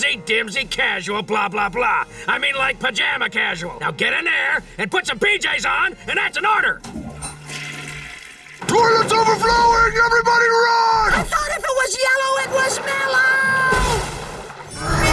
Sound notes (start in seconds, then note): 6.8 toilet flushing; 14.7 roaring